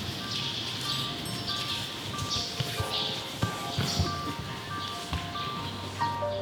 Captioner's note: bells tingling